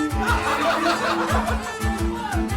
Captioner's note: laughs